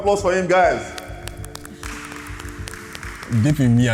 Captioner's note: clapping